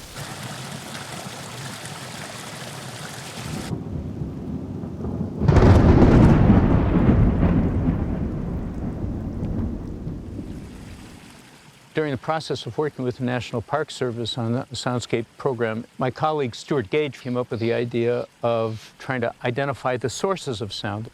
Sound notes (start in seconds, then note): 0.0 gurgling water; 5.3 crack of loud thunder and rumbling echo; 10.9 splashing water